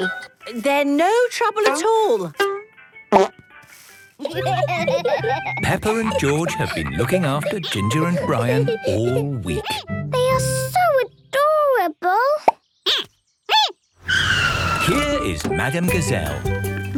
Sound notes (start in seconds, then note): 4.2 laughter; 14.0 squeaking